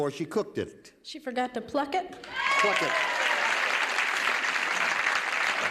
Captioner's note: cheers and applause